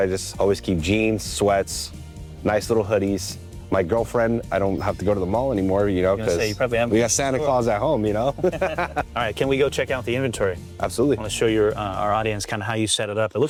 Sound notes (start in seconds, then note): 8.2 both laughing